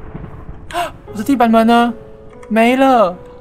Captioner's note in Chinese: 吸氣